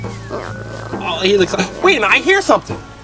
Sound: chewing sounds

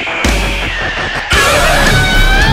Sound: guttural scream; guitar solo

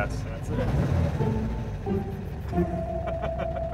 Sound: engine roar

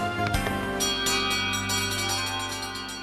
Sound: bell Clangs

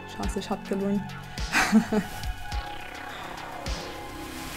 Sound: laughs

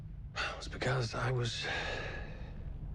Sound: exhales; sighs

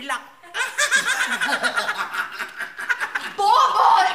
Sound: laughing

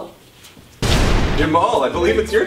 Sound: boom

